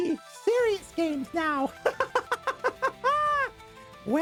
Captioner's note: laughter